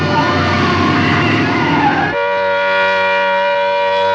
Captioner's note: siren Wailing